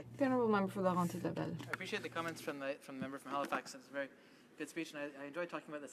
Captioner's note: speaking French